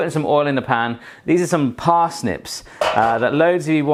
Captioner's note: clanging